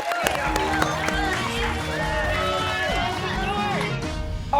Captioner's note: cheers and applause